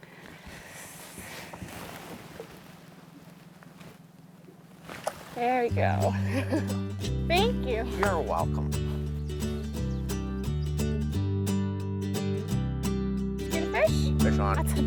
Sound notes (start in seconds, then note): 6.0 laughs; 9.3 acoustic guitar music